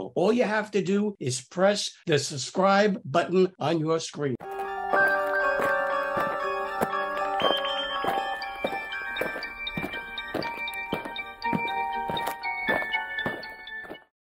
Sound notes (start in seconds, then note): 4.4 eerie Music; 9.5 aliens marching